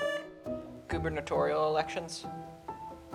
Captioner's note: buzzer sounding